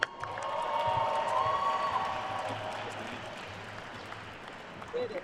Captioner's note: attendees cheering and applauding